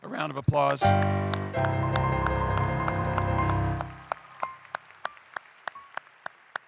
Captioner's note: applause